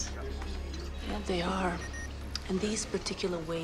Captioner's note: monitor beeps